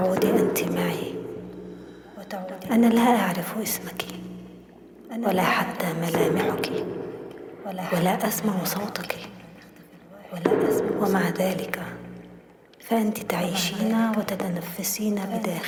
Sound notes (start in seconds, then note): 2.8 women speaking in foreign language